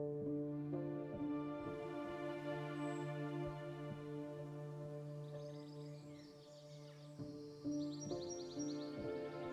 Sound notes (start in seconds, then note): 0.1 somber orchestral music; 3.5 birds chirping